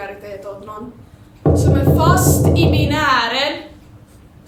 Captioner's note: knocking sound